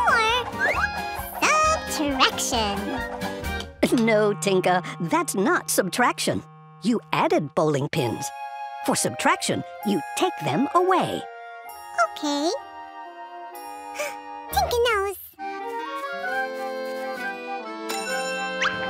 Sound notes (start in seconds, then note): 13.7 gasps; 17.6 rings